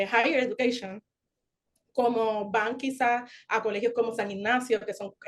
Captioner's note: continues speaking Spanish